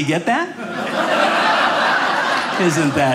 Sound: audience laughing

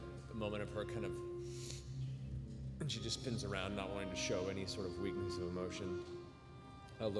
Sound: sniffles

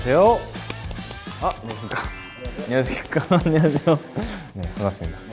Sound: clap, clap

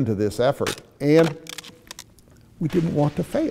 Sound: cracking

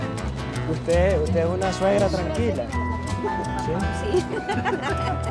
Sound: speaking in foreign language

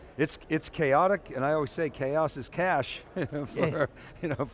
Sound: laughs

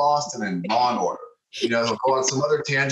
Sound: laughs

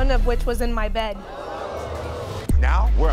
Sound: audience gasping

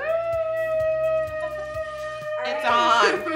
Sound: cheering

